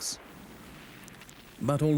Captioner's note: shell blasts